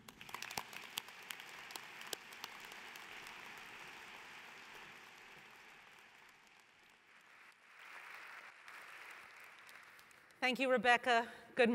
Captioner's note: applause